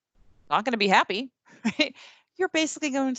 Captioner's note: laughs